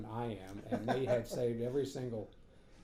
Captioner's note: laughing